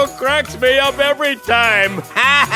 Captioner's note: chuckles; laughs